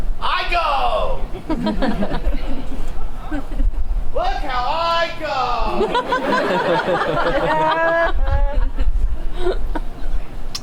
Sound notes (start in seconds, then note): 1.4 audience laughs; 5.6 audience laughs